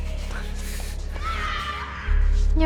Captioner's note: Hermione Screaming